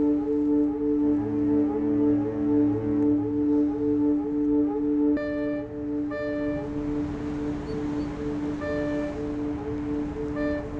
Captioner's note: ocean waves hitting shore, fog horn